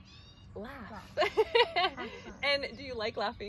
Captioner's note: laughing